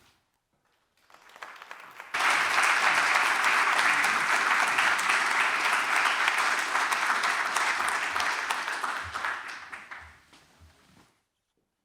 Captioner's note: applause